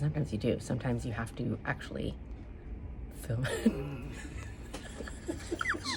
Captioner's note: laughs